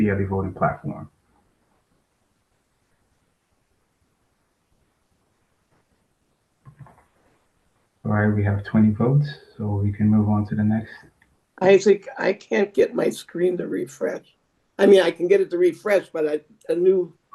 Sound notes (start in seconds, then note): 3.2 pause